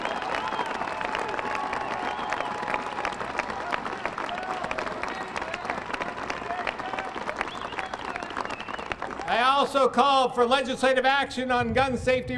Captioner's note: applause